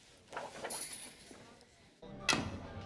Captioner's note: curtain slides